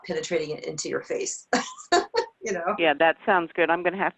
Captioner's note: laughs